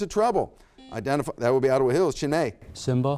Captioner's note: buzzer beeps